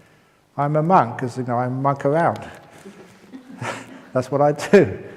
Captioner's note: laughs